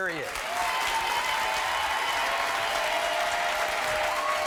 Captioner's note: applauding